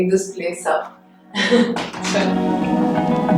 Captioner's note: chuckles